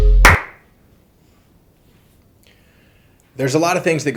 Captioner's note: loud clap